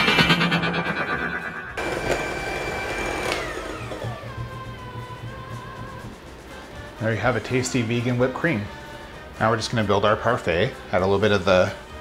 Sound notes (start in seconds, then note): 1.8 whisking